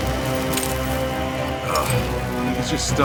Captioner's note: Bruce groans